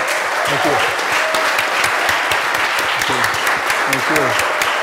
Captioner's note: applause